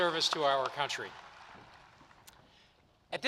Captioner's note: applause